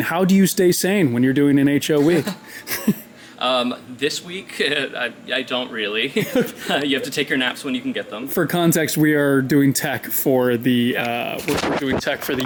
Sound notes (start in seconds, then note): 6.0 laughs